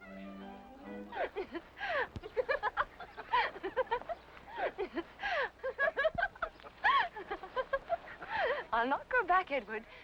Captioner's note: Blanche laughing